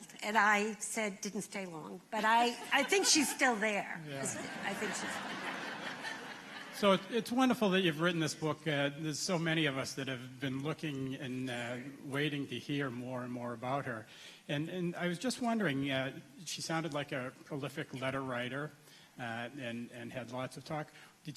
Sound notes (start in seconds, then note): 4.1 laughter